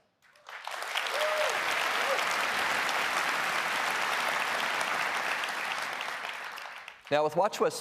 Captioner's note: applause